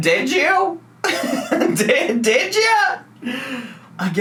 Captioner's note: laughs